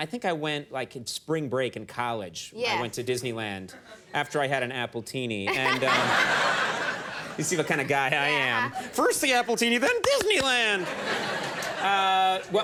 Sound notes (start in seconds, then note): 5.5 Mila and crowd laugh; 10.4 crowd laughs